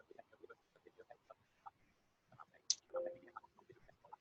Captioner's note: silence